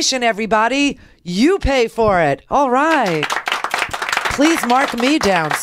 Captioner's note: applause